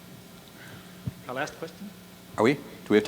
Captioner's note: voiceover